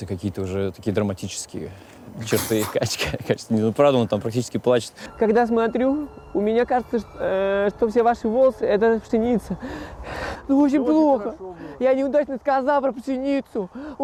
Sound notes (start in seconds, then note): 2.7 dud bursts; 9.1 sighs in distress